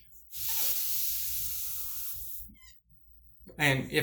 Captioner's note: exhaling